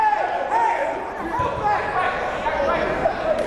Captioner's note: yelling